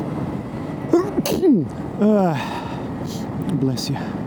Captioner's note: sneezes